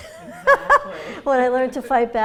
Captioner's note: laughs